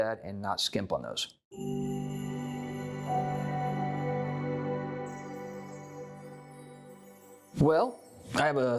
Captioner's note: chime Sound